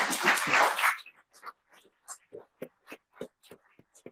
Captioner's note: attendees clapping